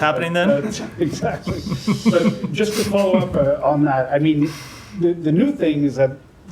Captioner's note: laughter